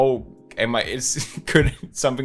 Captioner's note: chuckles